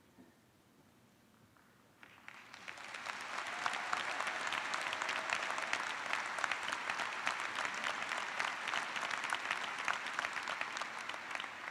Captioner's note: applause